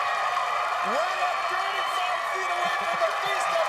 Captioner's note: cheers and applause